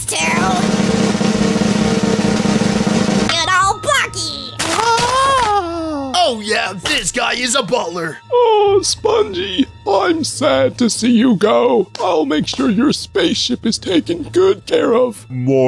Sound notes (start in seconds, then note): 0.0 drumroll sound plays; 4.6 howling in panic, for the sixth time!